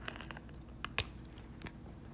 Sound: snap

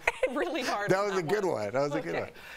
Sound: laughter

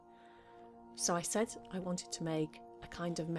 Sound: soft meditative music; recorded Voice

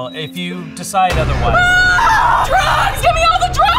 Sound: cries in pain

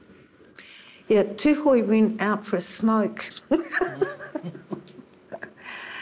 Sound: laughs

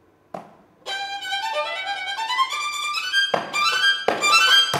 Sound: fast music; finger taps; finger tapping

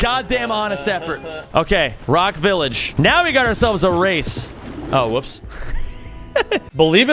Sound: laughs

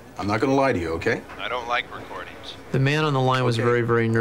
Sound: on phone

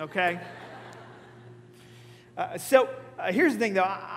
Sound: congregation laughing

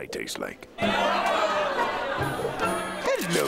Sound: chattering

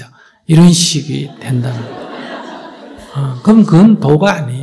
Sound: audience Laughter

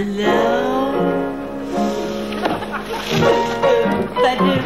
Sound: audience laughing

